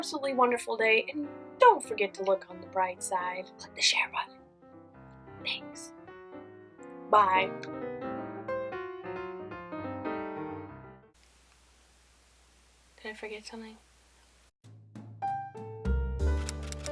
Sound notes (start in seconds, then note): 3.5 whispering